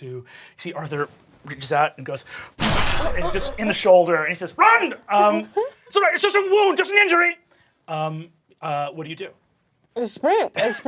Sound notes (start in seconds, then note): 2.6 gunshot sounding